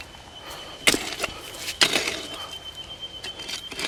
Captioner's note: digging